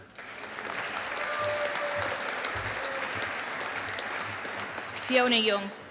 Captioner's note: audience applauding